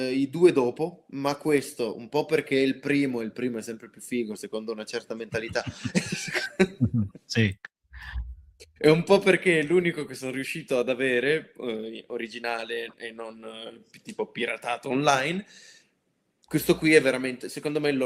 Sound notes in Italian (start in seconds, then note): 5.3 risate